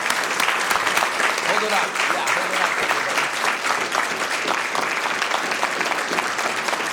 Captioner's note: applause